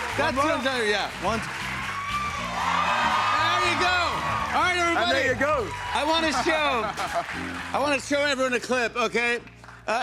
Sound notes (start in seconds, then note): 1.6 audience cheers